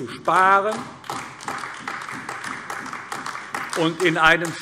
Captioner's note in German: Beifall AfD